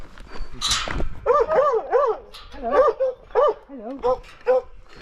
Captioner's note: dog barking